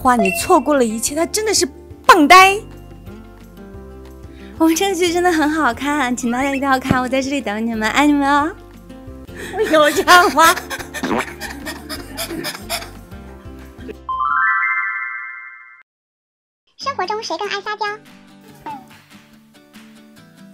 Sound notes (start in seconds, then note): 10.6 out of breath from laughing